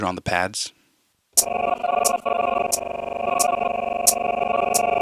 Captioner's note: sound sample stuttering